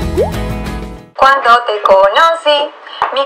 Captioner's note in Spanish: Sonido Viejo Transistor